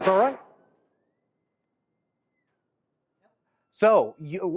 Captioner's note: thunder sound